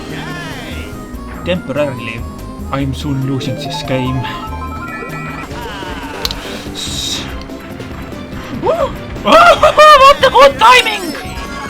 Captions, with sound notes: Temporarily. I'm soon losing this game... [Gasp] Ssss... Whoa! Ohoho, what a good timing!